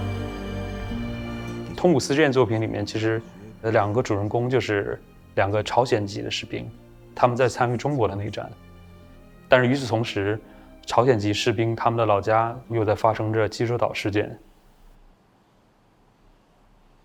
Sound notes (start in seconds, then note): 2.0 Mandarin